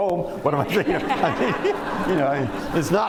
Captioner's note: laughter